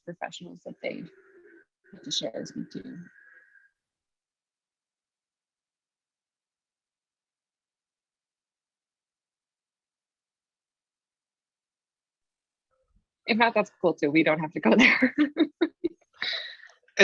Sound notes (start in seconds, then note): 5.1 pause